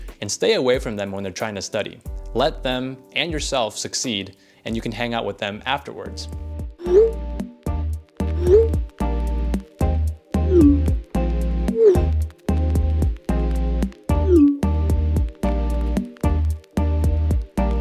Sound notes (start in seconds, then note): 6.9 sent notification chimes